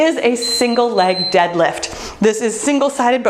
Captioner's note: bell dinging